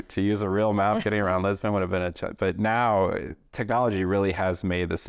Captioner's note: laughter